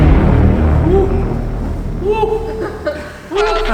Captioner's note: grunting